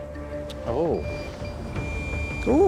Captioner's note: beeping